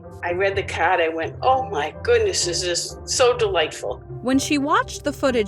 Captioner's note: none